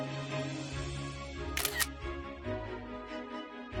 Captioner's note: camera shutter sound